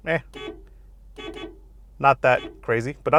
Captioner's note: horn honking